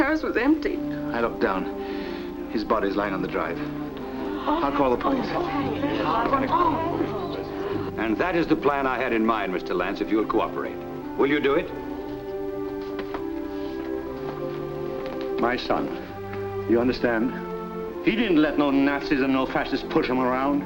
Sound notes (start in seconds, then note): 5.2 background chatter